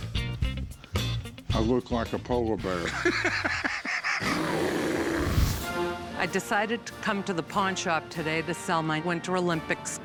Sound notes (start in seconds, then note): 2.7 laughs